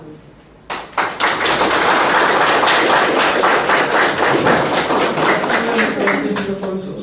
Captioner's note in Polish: oklaski